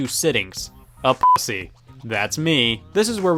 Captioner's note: beep